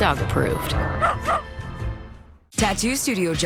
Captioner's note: dog barks